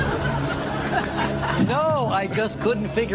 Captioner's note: laughter